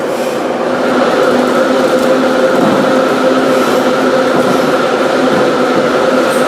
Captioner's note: braking